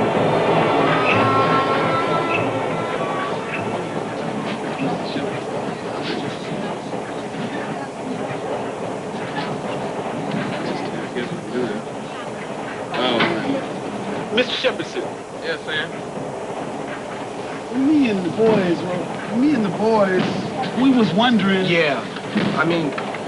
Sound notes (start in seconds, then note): 5.1 indistinct chatter